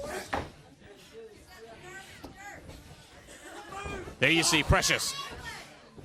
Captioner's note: crowd chatter